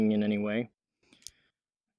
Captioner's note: click